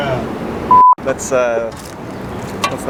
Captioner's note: beep